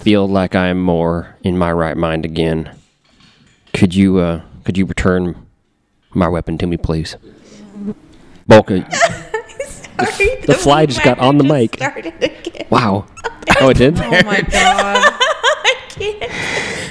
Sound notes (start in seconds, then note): 7.6 fly buzzes; 8.8 laughing; 12.0 laughing; 15.7 laugh